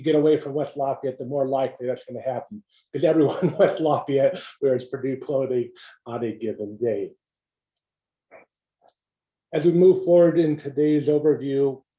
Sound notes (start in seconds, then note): 3.1 laugh